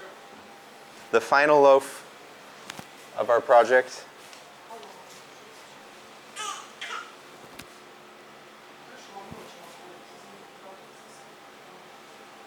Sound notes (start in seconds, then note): 6.3 baby cooing; 9.3 people chattering